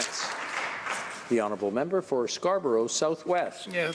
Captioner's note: some applause